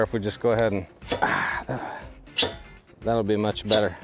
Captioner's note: metal scraping; host grunting